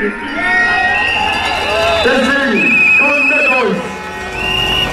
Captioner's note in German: jubeln, klatschen